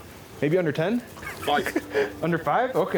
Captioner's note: laughing